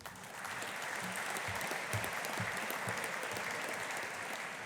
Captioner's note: audience applauding